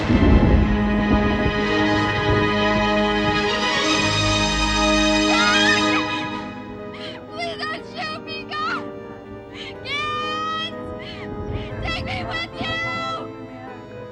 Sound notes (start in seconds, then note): 3.3 dramatic music; 8.0 voiceover